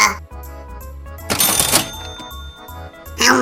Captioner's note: cash register